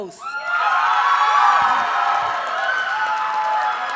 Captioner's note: audience cheers and applauds